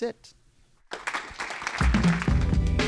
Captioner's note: applause